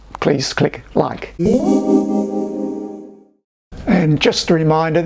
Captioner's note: ethereal ding